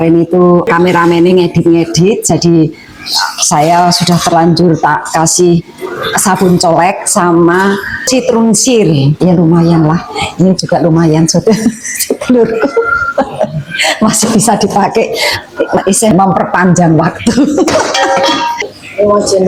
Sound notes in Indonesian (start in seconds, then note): 11.3 tertawa